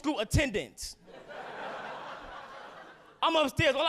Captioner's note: audience laughing